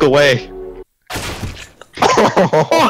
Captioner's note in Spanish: Risas